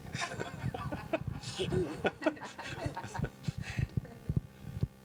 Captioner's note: laughter